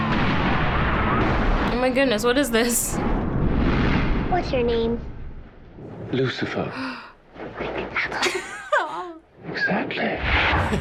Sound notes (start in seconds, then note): 6.7 girl gasps; 7.5 whispers; 8.2 laughs; 10.6 laughs